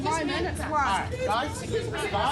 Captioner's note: customers arguing